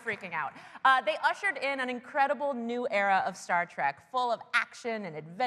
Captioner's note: applause